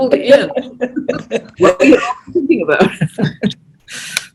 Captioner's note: laughs